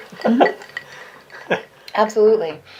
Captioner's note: light laughter